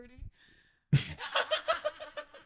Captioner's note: laughing